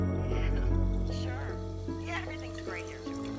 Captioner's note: on phone